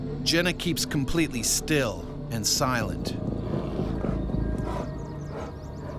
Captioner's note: voiceover